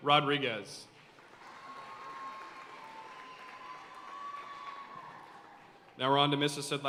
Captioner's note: audience cheering and applauding